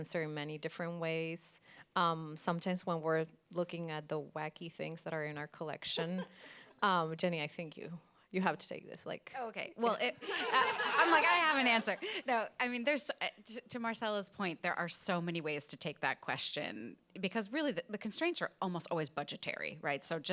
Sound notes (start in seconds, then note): 5.9 laughs; 10.1 all laughing